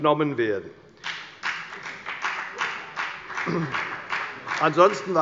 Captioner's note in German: Beifall bei der FDP